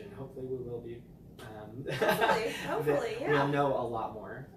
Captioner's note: laughing